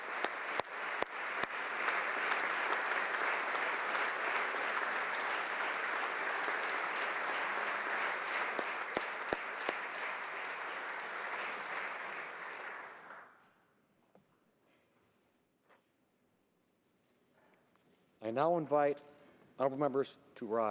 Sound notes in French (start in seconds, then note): 2.3 applaudissements